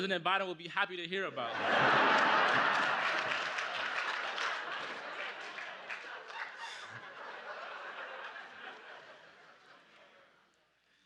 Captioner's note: laughter